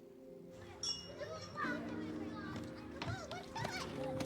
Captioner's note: children chatting